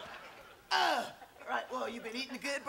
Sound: grunting

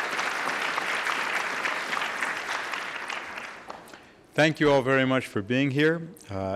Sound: applause

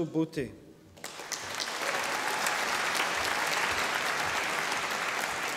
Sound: audience applauding

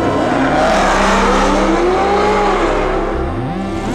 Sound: engine roaring

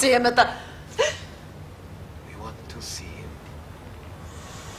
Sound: gasps

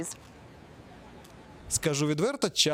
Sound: street sound

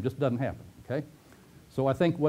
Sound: pause

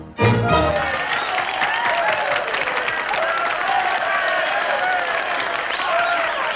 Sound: men cheering

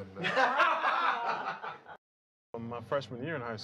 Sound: laughing

